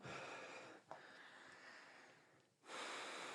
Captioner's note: sighs